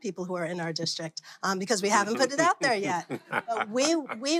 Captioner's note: laughs